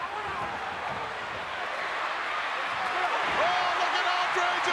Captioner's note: crowd chattering